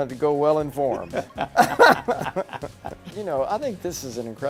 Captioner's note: laughing